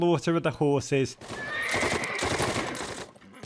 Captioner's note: horse neighing; gunfire